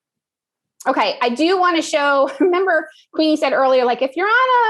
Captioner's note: laugh